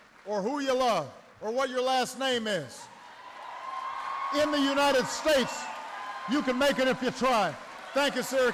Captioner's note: applause